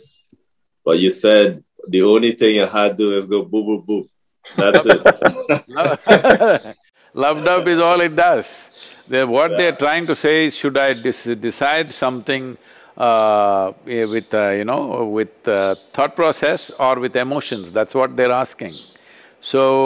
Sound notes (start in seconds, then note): 4.5 laughter; 7.2 laughs